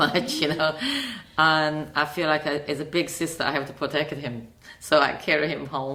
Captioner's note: laughs